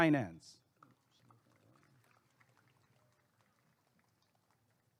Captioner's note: applause and cheering